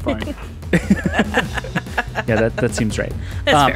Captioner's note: laughing